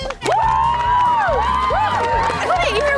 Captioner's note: cheering